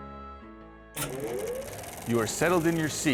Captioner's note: sound of Movie Projector